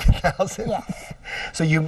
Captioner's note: laughing